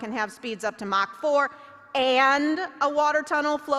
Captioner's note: none